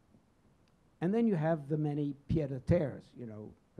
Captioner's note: speaking in foreign language